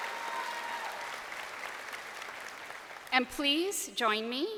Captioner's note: crowd applauding